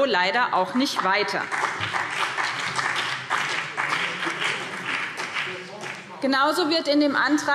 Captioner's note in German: Vereinzelter Beifall BÜNDNIS 90/DIE GRÜNEN und CDU